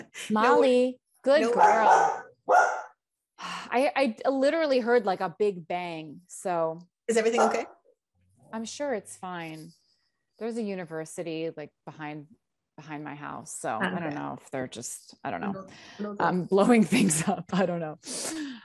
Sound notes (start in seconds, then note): 1.4 dog barking